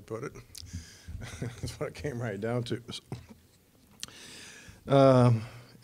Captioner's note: laughing